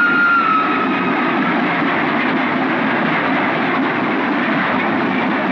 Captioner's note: Train Running Sound